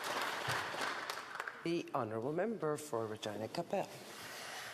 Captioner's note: applause